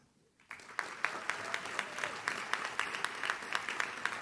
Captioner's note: audience claps